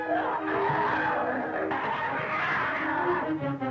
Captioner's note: growling